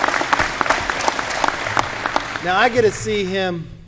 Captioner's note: applause